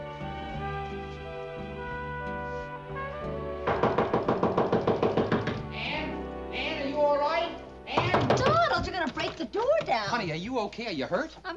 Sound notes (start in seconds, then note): 3.6 knocking on door; 7.9 knocking on door